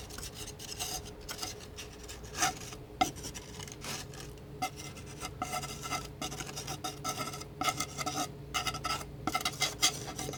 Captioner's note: scratching